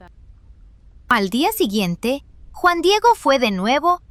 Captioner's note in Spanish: Voz en off